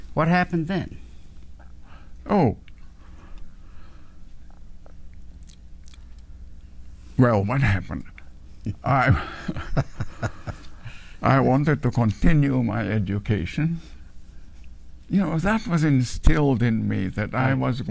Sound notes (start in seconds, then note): 8.7 laughs